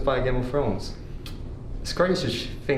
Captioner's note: tsk